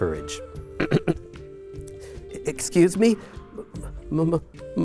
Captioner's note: clears throat; stammers